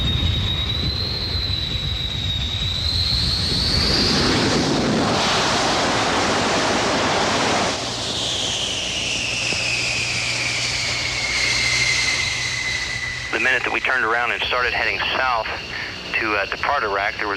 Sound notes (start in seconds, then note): 3.5 landing plane; 8.1 plane noise